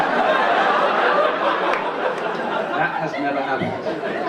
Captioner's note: audience laugh